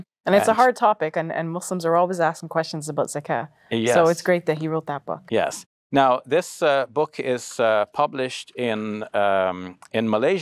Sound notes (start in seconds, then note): 3.1 speaks Arabic